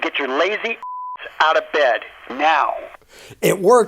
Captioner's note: beeping sound